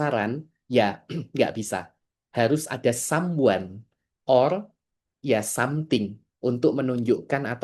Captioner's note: berdehem